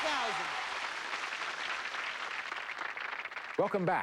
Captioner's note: applause